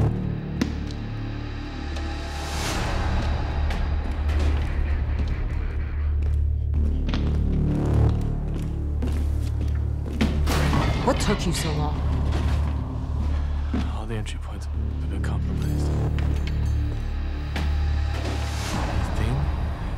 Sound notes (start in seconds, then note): none